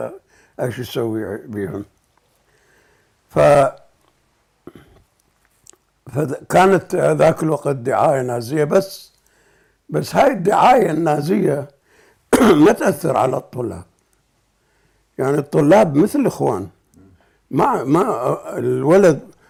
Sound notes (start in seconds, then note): 12.3 cough